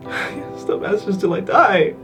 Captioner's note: Ethan crying